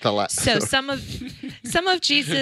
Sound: laughs

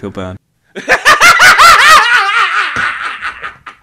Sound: boisterous laughter

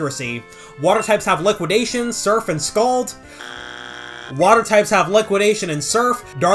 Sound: bzzzzzt

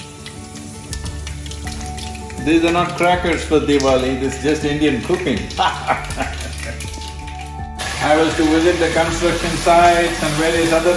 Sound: laughs

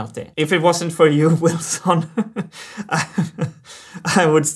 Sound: chuckles

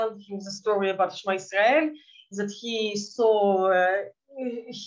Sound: speaking in Yiddish

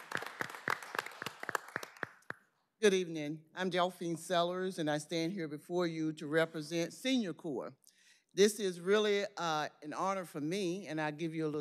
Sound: applause

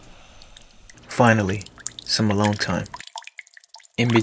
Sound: water Drips

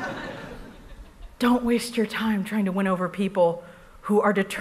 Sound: laughter

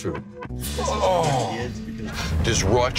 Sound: groaning

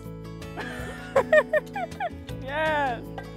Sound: laughing

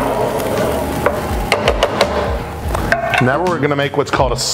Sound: spoon banging

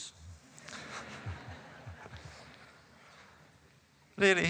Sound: laughter

